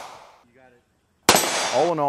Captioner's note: voiceover; gun shot